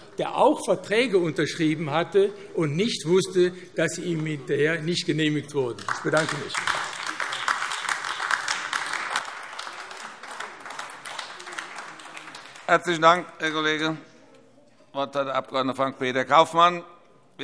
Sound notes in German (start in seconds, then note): 8.9 Beifall AfD